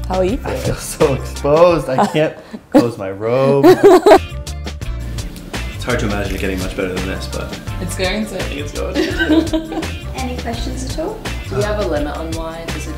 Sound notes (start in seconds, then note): 3.6 laughter; 8.9 laughter